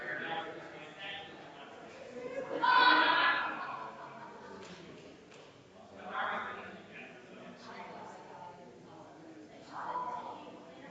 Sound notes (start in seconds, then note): 0.9 people chattering distantly continues